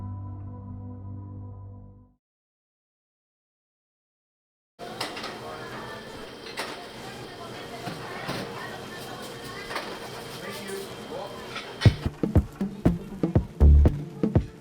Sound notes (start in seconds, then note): 4.8 people chattering; 12.0 upbeat music